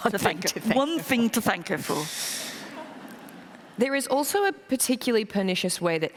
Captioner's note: laughter